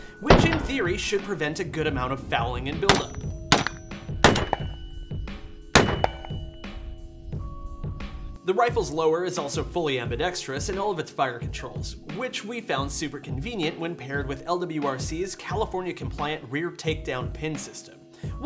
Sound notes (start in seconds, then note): 2.7 gunshot firing